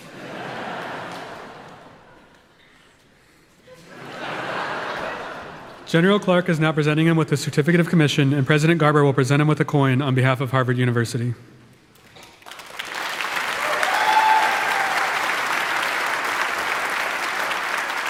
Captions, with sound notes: (audience laughing) General Clark is now presenting him with his Certificate of Commission, and President Garber will present him with a coin on behalf of Harvard University. (audience applauding) (audience cheering)